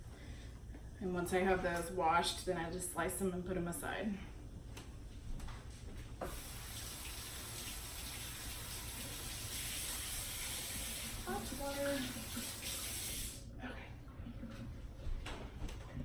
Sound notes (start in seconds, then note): 6.2 water running